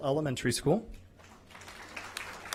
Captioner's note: applause